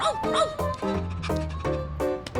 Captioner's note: panting